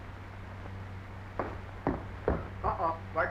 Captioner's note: footsteps clomping